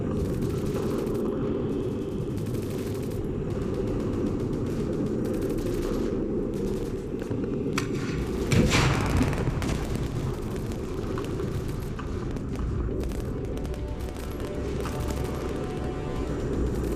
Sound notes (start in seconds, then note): 0.2 gunfire and explosions; 14.3 dramatic music, gunfire and explosions